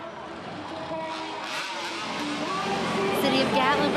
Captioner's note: chainsaw screeching